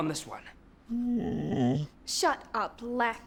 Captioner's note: dog whines